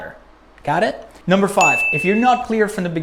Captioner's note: bell